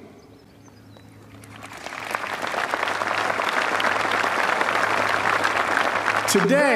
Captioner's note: applause